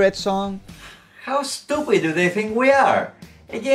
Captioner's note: sighs